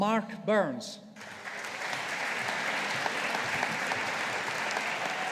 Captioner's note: audience applauding